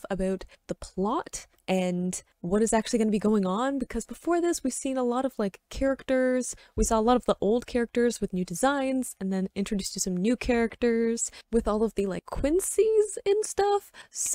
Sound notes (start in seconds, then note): none